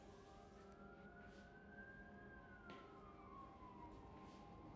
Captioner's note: sirens continue blaring